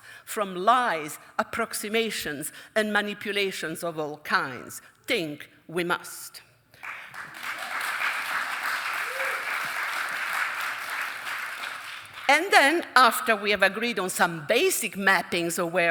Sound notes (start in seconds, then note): 6.8 audience applauding and cheering